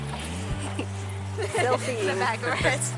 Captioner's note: laughs